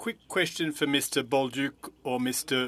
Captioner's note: speaking in French